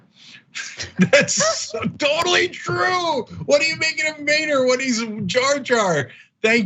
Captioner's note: laugh